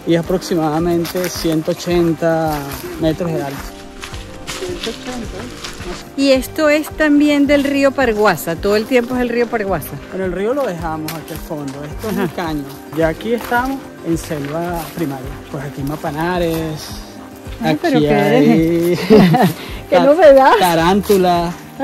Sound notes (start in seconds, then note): 18.1 laugh